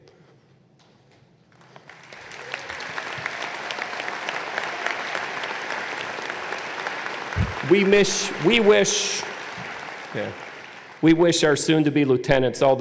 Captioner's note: applause